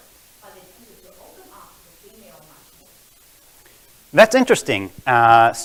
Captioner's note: murmurs